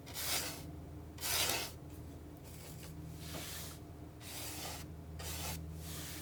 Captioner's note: scratching